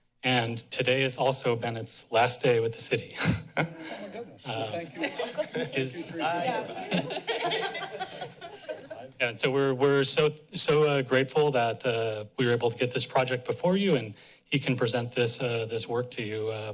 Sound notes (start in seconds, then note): 3.2 chuckles; 3.2 laughs